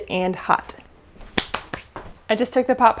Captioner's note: hands clapping